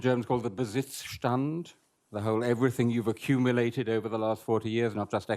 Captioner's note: speaking german